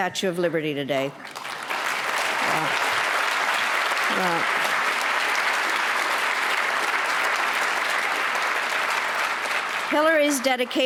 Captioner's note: applause